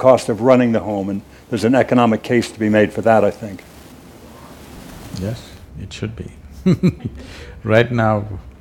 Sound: few laugh

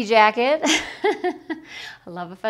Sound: laughs

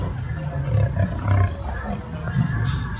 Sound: lions growling

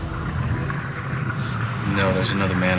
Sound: water rushing

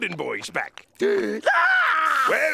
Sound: gasping, screaming

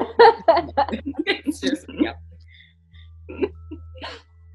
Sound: all laughing

